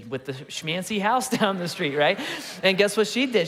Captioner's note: congregation laughing